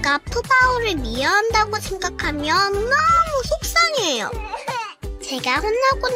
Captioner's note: sob